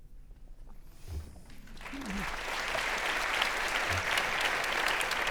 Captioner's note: audience applauding